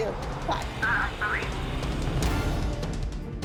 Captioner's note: on phone